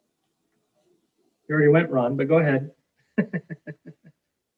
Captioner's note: laughs